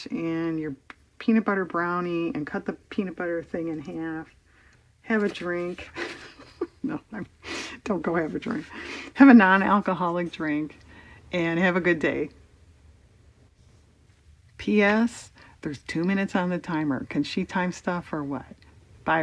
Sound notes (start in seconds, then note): 5.8 laughs